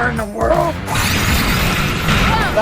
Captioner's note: tires whirring